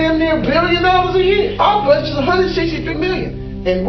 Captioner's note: scoffing